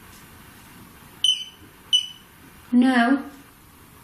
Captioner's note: beeps twice